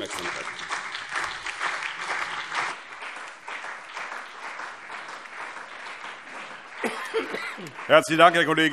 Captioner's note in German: Beifall BÜNDNIS 90/DIE GRÜNEN, CDU und vereinzelt DIE LINKE